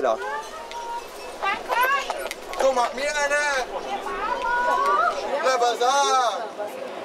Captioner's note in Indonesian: suara kepanikan